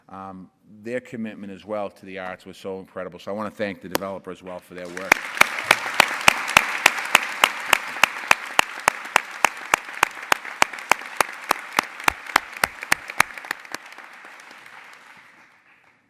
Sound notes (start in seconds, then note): 4.8 applause